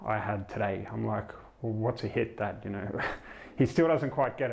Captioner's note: chuckles